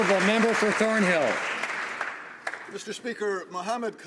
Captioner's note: some Applause